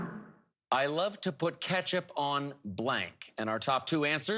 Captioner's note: whooshing